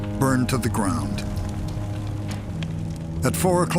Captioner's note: flames crackling